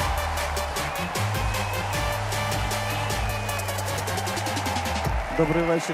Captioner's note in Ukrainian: оплески